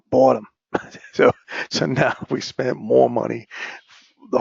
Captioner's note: laugh